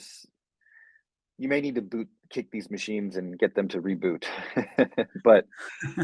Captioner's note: chuckles